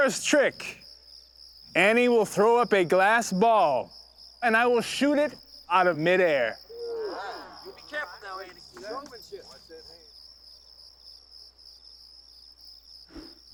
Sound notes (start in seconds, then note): 6.6 crowd chattering